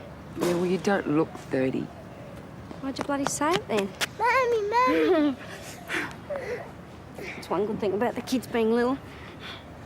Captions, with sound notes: Yeah, well, you don't look 30. Why'd you bloody say it, then? Mummy! Mummy! (Laughs) That's one good thing about the kids being little.